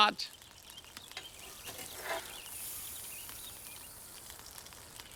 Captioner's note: fire crackling